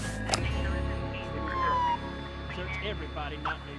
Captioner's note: police radio